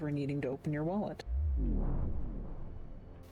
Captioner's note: vwoom